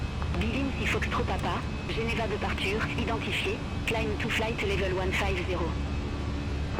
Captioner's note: radio chatter